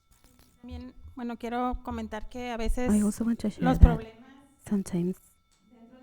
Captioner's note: panelist speaking in Spanish